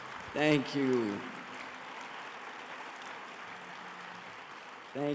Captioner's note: audience applauding